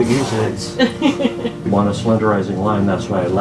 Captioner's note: laughing